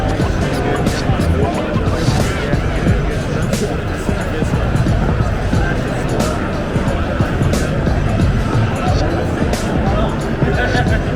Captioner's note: crowd chattering